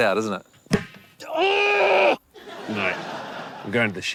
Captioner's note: grunts aggressively